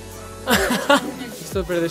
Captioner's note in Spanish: Risas